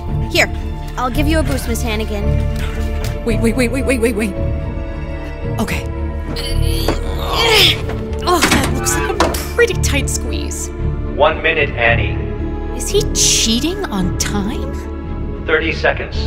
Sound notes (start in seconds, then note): 6.2 groans